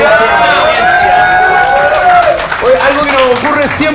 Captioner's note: cheers and applause